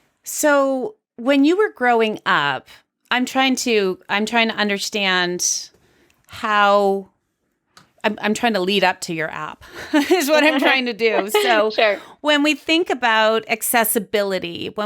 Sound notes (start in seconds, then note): 9.9 both laughs